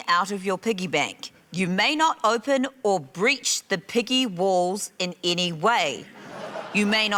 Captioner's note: laughter